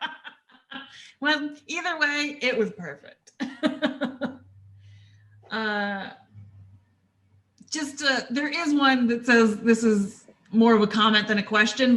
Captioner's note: laughter; laughter